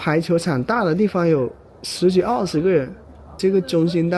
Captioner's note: chatting